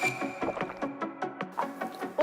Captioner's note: gulp